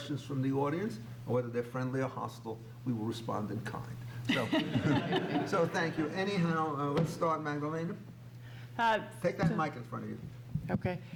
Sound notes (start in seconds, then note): 4.3 laughs